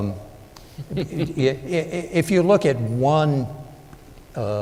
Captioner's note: laughter